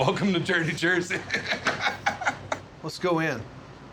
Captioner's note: laughter